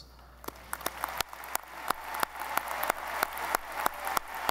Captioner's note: audience applauding